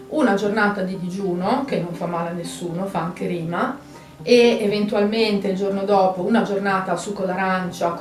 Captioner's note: in Italian